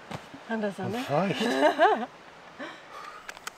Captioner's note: laughter